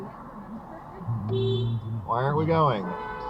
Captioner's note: beep